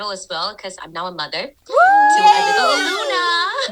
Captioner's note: girls cheering